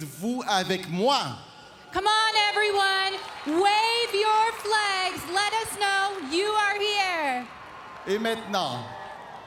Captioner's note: speaking French